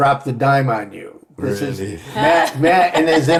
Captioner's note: laughing